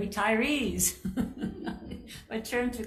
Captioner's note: chuckling